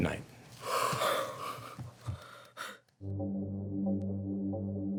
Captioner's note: collective sighs; energetic music